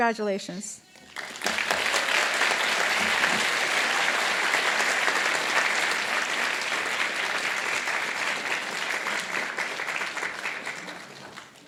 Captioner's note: applause